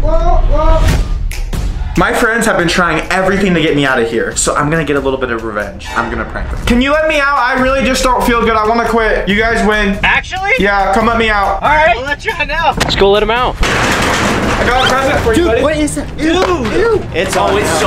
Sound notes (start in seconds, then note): 13.6 door rattles